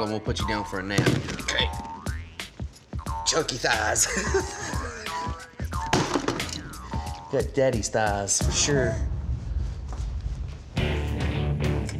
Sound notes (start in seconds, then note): 3.9 laughing